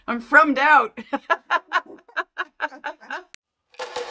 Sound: laughter

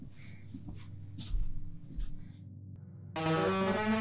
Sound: footsteps

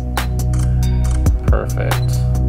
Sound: camera clicking

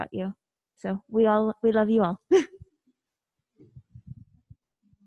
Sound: chuckles

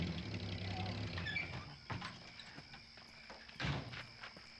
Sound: turns off engine

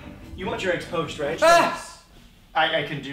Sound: screams

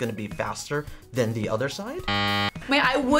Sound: buzzer

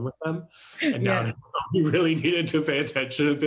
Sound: chuckles

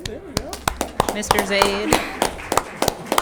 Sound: group clapping

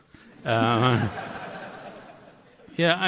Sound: laughter

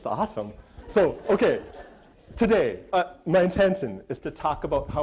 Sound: audience laughter

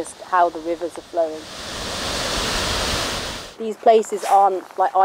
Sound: water flowing

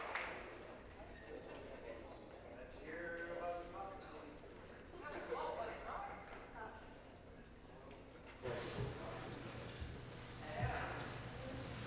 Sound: applause

